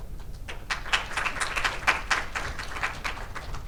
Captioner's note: audience applauds